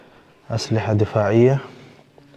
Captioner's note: Arabic